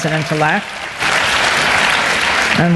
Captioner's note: applause